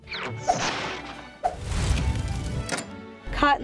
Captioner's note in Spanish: sonido de flamas